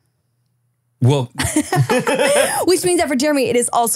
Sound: laughing

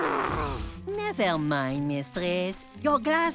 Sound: groaning

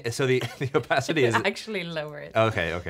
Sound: laughing

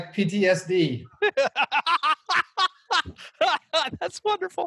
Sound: laughs

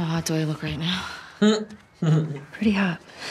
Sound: laughs

